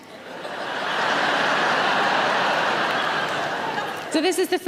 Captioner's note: audience laughing loudly